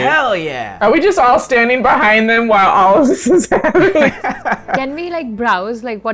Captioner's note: laughs